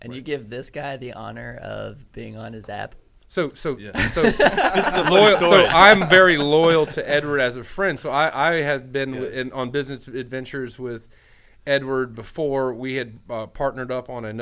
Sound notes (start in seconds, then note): 3.9 men laughing